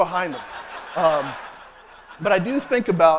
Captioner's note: laughter